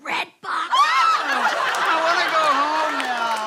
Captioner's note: screams